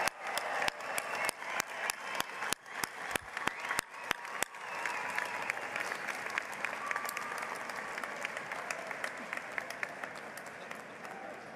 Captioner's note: applause